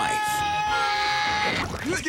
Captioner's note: Barry screams; Flint Lockwood screams